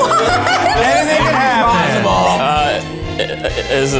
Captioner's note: shouts